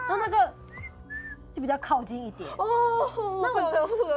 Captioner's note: whistle sound